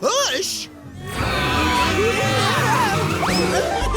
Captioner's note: yelling frantically